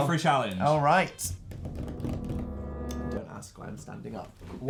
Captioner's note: sneaky rolling